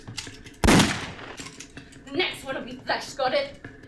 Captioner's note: gun shot